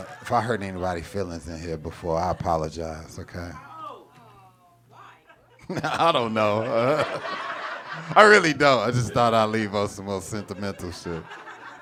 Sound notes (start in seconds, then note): 4.9 laughs; 7.0 audience laughing; 11.5 audience laughing